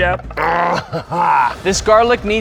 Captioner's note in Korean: 으르렁